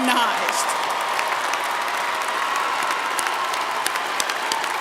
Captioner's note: applause